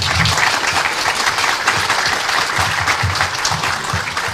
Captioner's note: round of applause